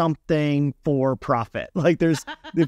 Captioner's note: laughing